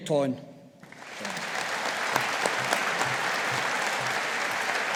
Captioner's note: audience applauding